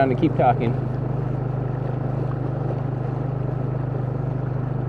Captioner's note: engine buzzing